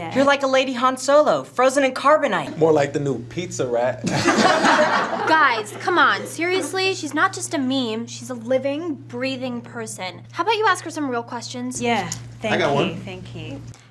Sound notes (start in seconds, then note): 4.1 class laughs